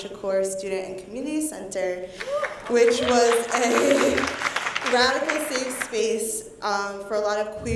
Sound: applause

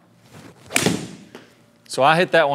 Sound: ball strikes wall

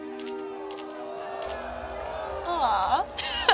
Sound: crowd gasping; laughs

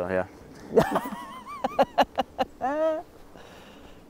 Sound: laughs

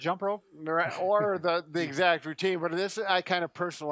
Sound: laughs

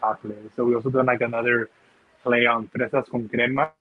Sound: speaking in foreign language

